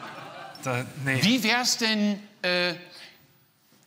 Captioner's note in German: Publikum lacht